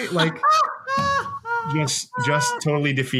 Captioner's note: laughs